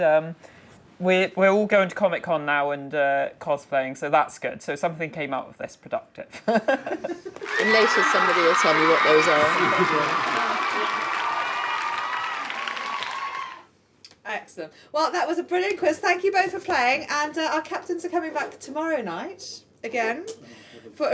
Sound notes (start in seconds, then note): 7.0 laughing; 10.1 cheering sound effect